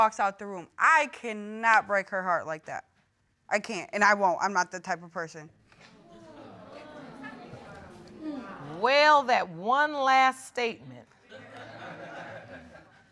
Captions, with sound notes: I cannot break her heart like that. I can't, and I won't. I'm not the type of person. [audience murmuring] Well, that one last statement. [audience laughing]